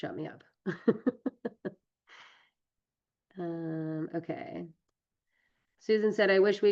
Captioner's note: laughs